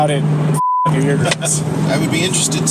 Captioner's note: chuckles